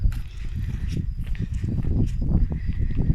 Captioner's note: wind